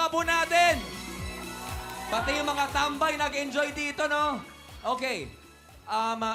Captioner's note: audience cheering, clapping